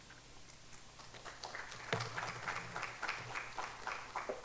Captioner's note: audience applauding